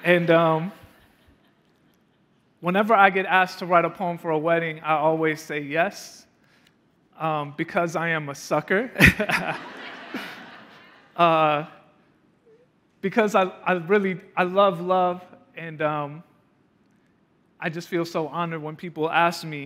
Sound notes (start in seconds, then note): 9.0 laughing